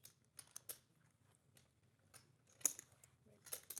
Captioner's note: chips clacking